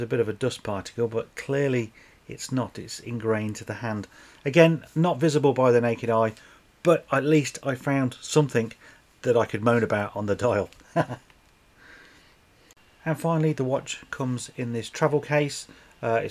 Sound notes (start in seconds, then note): 10.8 haha